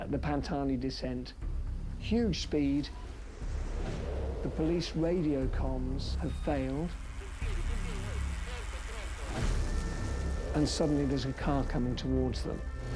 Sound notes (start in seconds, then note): 7.2 radio chatter